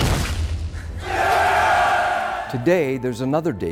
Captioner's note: cheering